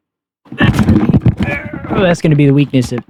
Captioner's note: grunts